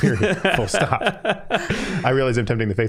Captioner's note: all laughing